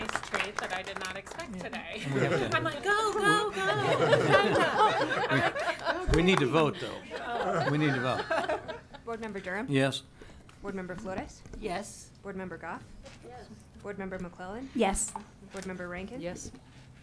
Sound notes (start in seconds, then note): 3.2 audience laughing